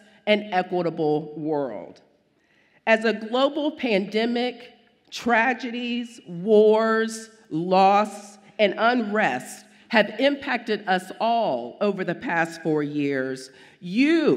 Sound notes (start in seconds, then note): none